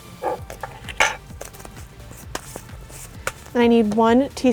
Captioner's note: spoon clinking